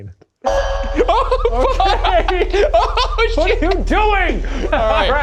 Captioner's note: laughing nervously